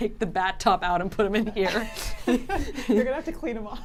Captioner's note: laughs